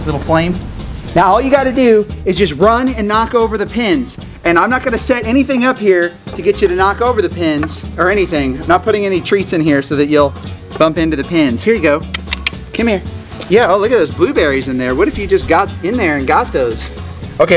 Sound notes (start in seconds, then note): 12.0 clicks tongue